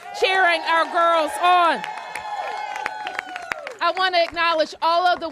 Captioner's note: applause